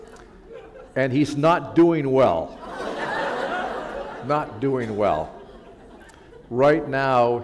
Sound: laughter

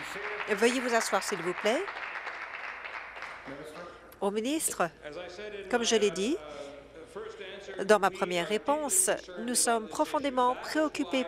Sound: applause

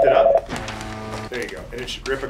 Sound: fax machine buzzes loudly

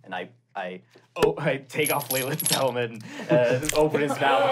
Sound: metallic clinging

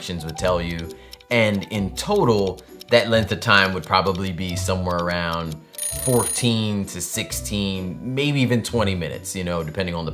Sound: alarm ringing

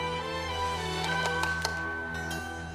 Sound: doorbell ringing

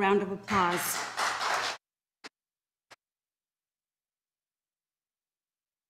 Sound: audience applauding

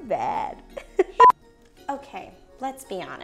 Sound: beeps

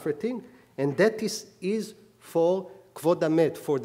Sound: speaking hebrew

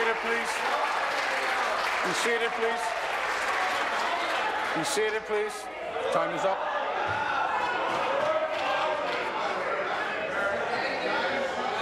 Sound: applause; applause

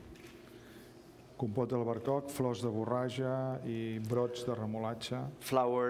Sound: speaking catalan

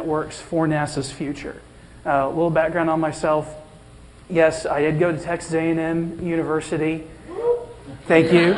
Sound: whoop!

